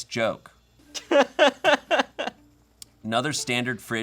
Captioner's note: laughs